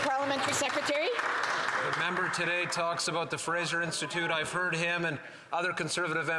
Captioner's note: cheering and Applause